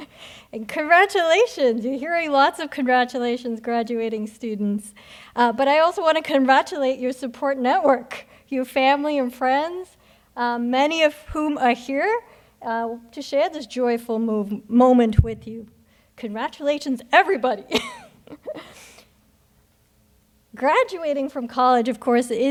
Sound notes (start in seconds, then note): 17.7 chuckles